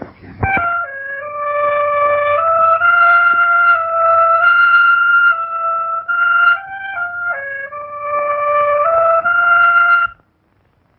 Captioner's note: pounding